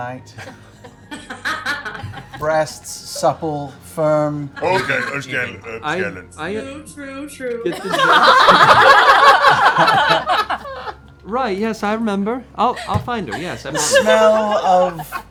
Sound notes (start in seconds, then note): 7.7 laughter